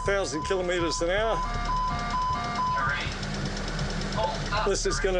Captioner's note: alarms going off